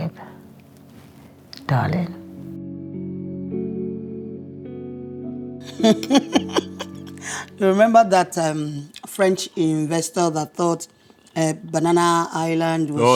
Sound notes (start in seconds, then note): 5.6 SADE laughing